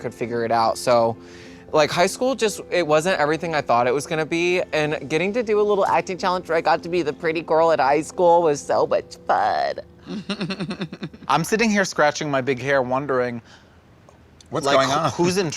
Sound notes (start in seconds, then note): 10.0 giggles